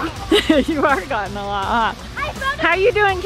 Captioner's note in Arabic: ضحكات خافتة